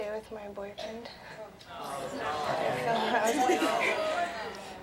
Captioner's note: audience murmurs